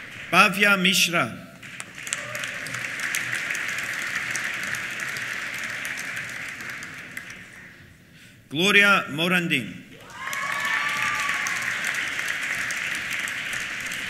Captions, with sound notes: Bhavya Mishra. (CHEERS) (APPLAUSE) Gloria Morandin. (CHEERS) (APPLAUSE)